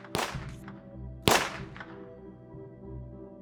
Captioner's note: gunshot